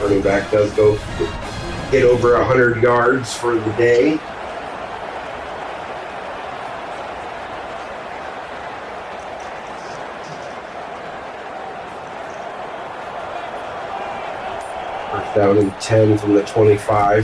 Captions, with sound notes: Running back does go get over 100 yards for the day. [Crowd Noises] I found 10 from the 25.